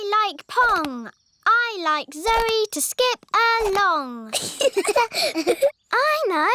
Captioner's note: both laugh